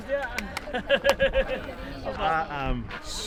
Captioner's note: man clapping; man laughing